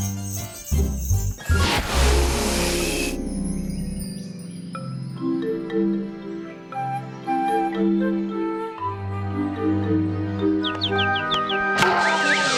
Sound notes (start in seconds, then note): 0.0 bells jingling; 1.9 chirping